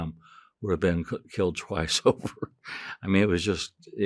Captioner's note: chuckling